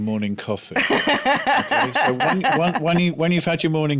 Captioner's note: laughter